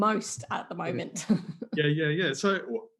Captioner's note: laughs